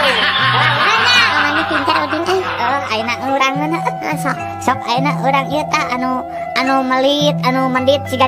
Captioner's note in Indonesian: tertawa